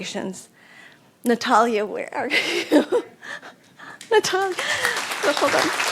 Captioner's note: applause